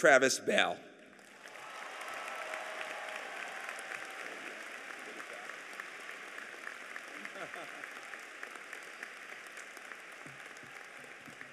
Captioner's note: applause